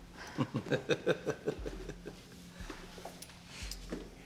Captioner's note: Thomas laughs